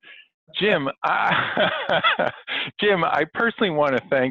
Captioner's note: laughing